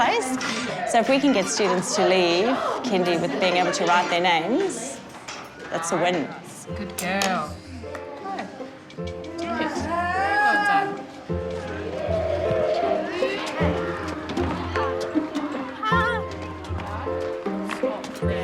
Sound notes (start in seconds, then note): 12.0 child growls; 13.9 children chatter; 15.9 light, happy music